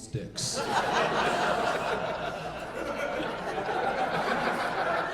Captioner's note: audience laughing